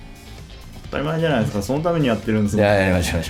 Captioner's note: laughs